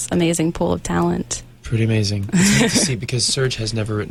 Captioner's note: interviewer laughs